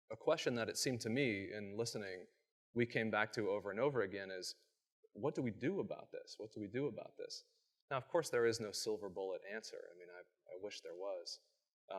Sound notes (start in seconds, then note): none